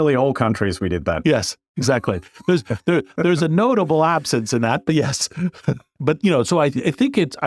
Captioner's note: laugh